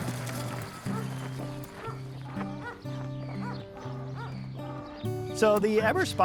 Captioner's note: gentle guitar music; dog barking